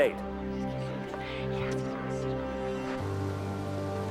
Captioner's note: crowd whispering